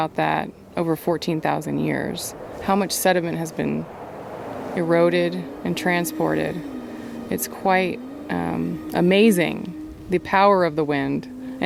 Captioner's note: sound of wind blowing